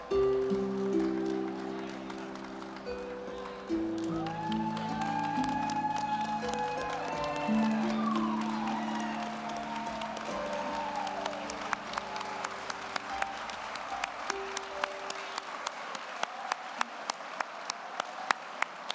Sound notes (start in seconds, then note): 5.7 audience applauding; 5.7 audience cheering